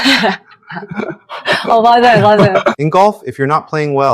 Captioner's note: Korean